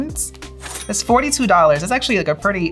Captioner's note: cash register dings